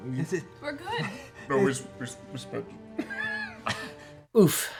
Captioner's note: laughs